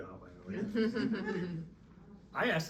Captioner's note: laughing